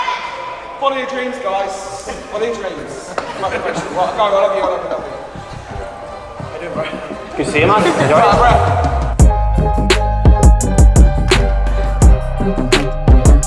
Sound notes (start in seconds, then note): 8.3 mumbles; 9.3 upbeat electronic music